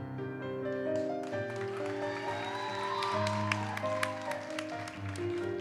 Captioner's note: audience cheers and applauds